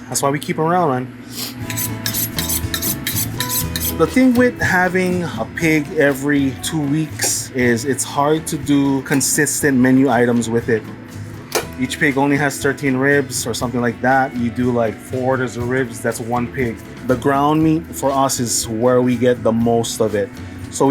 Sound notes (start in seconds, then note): 1.4 knives scrape; 2.2 mellow music